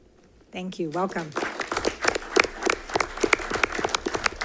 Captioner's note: applause